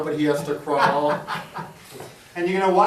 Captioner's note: laughing